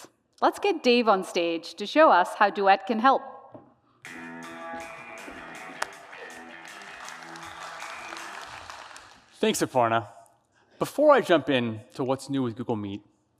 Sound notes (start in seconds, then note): 6.6 applause